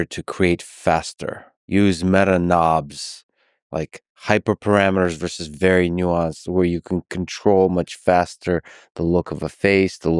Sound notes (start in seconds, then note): none